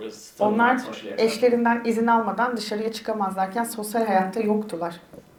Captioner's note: speaks in Turkish